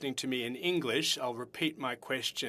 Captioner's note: speaking French